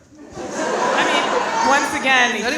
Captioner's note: audience laughing